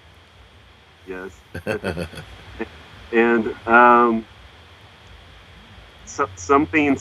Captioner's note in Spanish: ríe